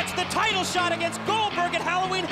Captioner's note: crowd cheering